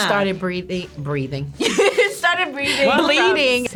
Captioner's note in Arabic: يضحك